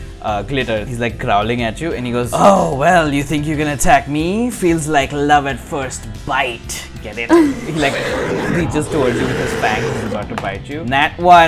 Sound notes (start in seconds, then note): 7.4 roar!